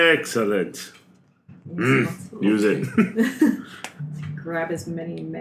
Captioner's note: agreeable grunt